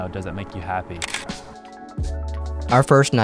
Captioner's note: camera shutter clicks